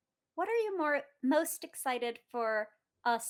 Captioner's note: none